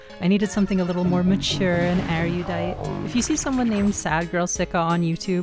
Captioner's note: bizarre, futuristic sounds; cries of Registeel and Regirock